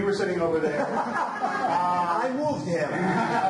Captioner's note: audience laughs